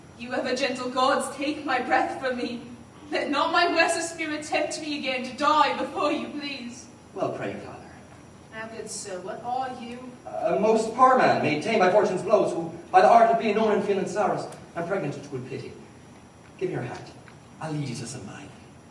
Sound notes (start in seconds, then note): none